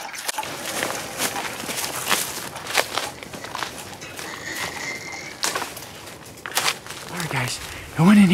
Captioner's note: running and rustling sounds